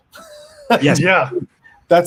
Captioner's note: laughs